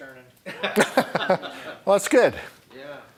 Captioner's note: laughter